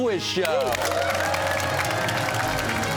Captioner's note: cheers and applause